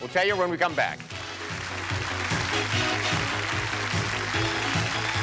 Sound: applause

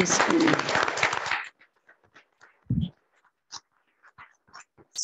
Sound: audience applauding

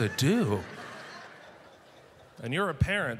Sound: audience laughter

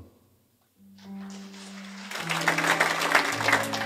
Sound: gentle blues music; audience applauds

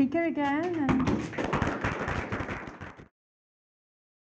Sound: applauding

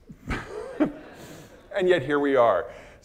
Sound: audience laughing

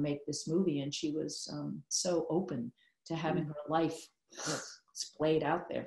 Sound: spurting sound

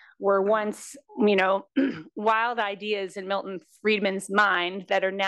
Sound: cough

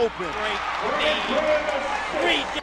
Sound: crowd cheering

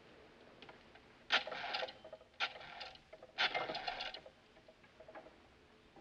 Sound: dialing

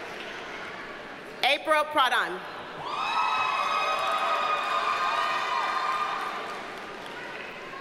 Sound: audience cheers and applauds

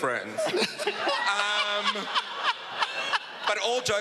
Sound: laughing

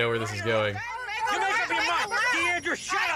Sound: yelling and arguing

